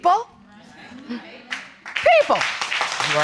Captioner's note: audience exclaiming; audience applauding